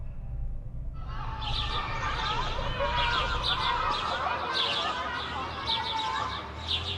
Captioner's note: children chatting, birds chirping